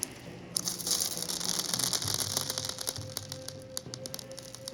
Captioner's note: pearls falling